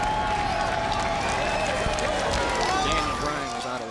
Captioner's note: crowd chatter